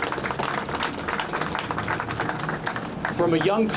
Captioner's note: applause